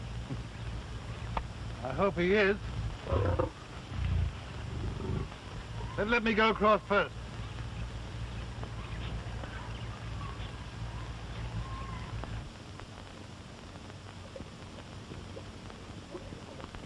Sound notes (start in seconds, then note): 0.1 chuckles; 2.7 growls